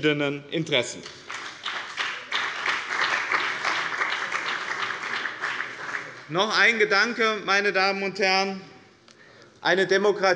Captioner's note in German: Beifall bei dem BÜNDNIS 90/DIE GRÜNEN und der CDU